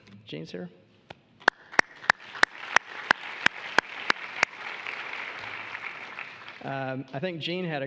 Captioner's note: applause